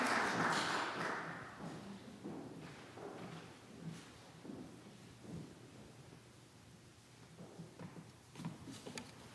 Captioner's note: applause